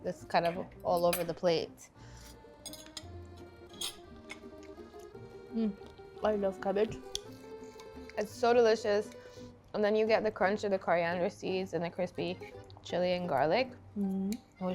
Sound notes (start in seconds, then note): 2.4 accordion music; 2.6 cutlery clinking